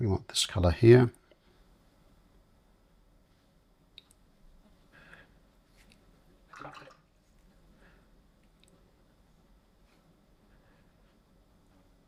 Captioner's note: silence